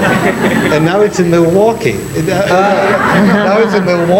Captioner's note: all laughing